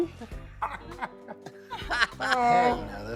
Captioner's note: laughing